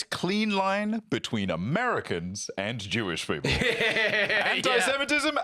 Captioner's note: laughing